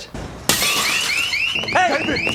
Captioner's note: glass shattering; alarm wailing